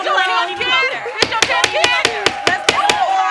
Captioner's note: all yelling; bangs gavel